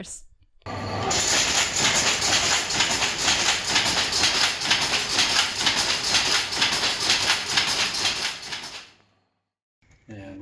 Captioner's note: machine rumbling and clattering starting